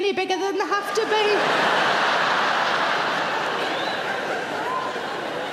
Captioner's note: audience laughing